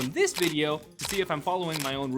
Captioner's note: camera shutter clicking